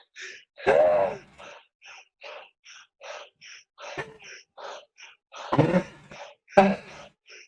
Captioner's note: gasping